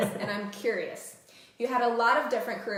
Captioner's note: laughter